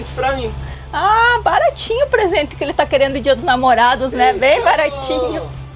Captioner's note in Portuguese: risadas